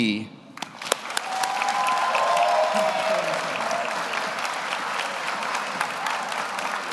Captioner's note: audience applauds; audience cheers